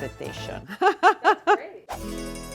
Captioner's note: laughing; italian music